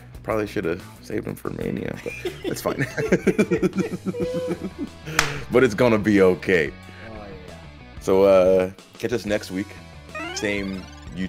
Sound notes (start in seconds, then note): 2.0 laugh